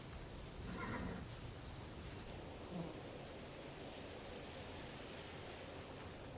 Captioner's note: wind blows